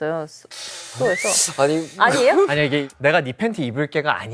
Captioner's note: inhales